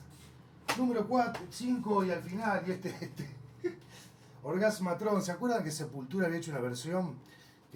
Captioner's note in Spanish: risas